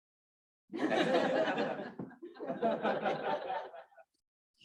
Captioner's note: audience laughing